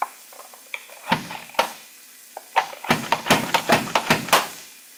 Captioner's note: mandoline thumping